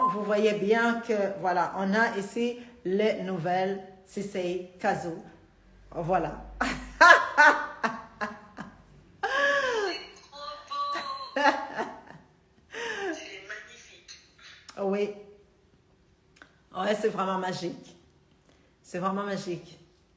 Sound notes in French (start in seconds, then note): 18.0 Rire